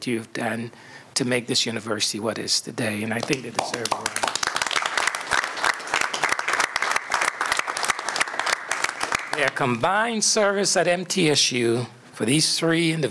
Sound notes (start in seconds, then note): 7.8 applause